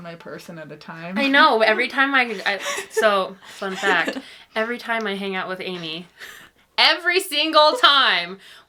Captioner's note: laughing